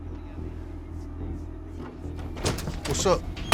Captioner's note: suspenseful music; door opens